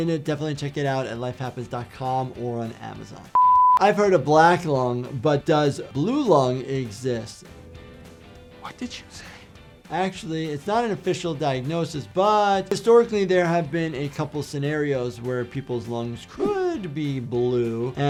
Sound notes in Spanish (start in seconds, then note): 3.3 pitidos de producción